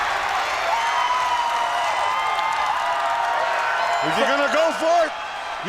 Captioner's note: crowd cheering